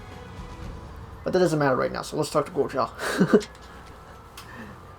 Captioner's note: chuckles